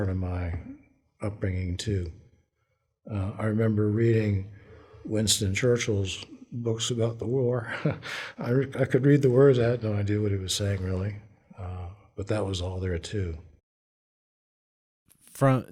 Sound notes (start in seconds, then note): 7.6 laughter